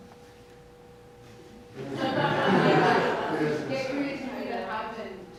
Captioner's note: audience laughs